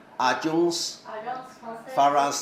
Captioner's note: speaks in foreign language; female audience member speaks in foreign language